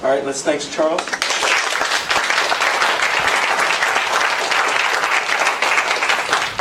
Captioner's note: applause